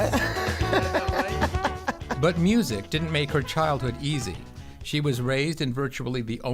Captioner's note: laughs